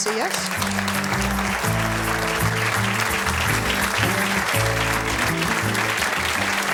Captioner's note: audience applauds; pleasant guitar music